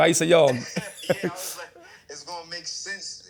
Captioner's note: on phone